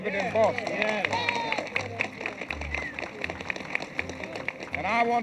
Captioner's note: people cheer and applaud